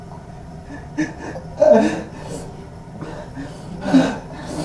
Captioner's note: Miles sobs and pants